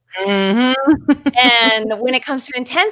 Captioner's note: laughing; chuckles